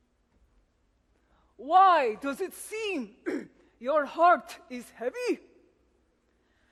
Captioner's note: clears throat